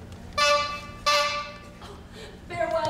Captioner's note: horn honking